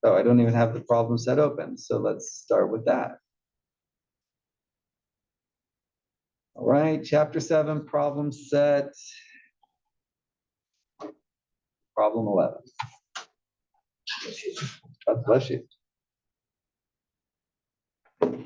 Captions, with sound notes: I don't even have the problem set open, so let's start with that. All right, Chapter 7 problem set, problem 11. >> [COUGH]. >> God bless you.